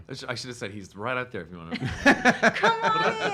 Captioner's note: laughing